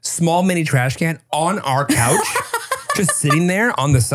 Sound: laughing

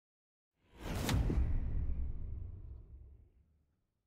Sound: logo whooshes

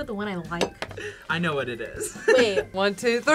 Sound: giggles

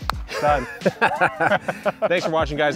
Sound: clapping; both laughing

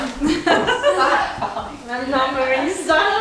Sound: laughing

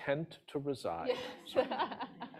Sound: laughter

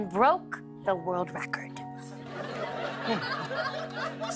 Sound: light laughter

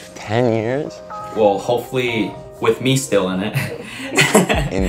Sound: laughs

